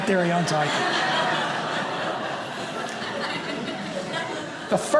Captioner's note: audience laughing